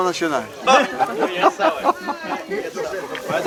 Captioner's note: laugh